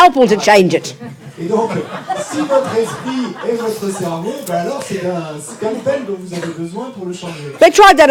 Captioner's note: audience member speaks in French